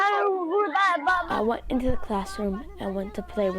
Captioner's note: through translator